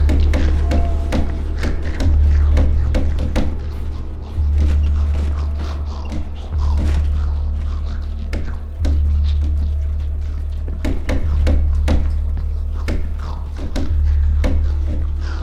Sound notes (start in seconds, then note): 0.1 banging; 3.1 grumbling; 10.7 banging